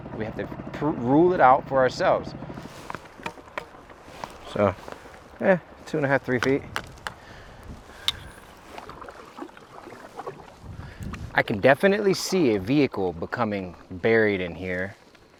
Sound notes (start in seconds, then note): 2.6 oar taps; 9.3 water splashes